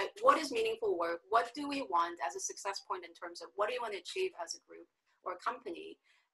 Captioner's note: none